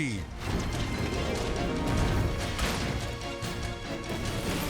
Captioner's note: race car smashing